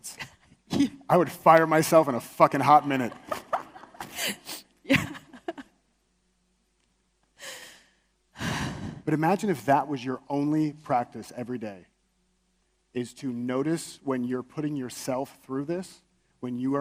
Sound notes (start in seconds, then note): 1.2 laughs; 2.8 audience laughs; 4.8 laughs; 8.4 exhales deeply